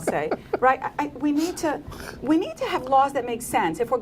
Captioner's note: laughter